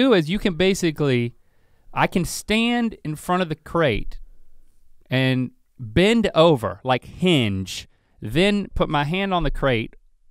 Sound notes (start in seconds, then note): none